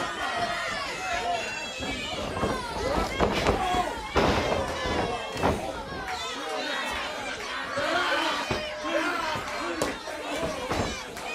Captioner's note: crowd chatter